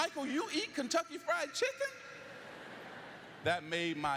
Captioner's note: lauaughghteter